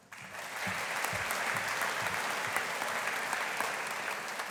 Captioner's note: audience applauding